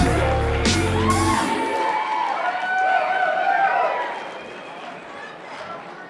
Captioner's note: applause